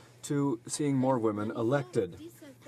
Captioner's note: speaking French